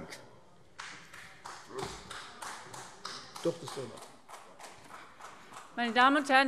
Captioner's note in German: Beifall eines einzelnen Abgeordneten